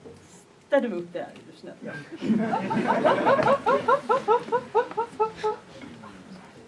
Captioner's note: laughter